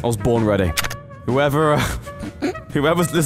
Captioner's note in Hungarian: nevetés